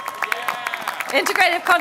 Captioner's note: applause